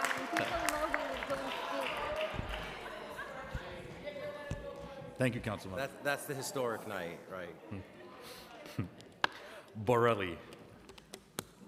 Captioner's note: applause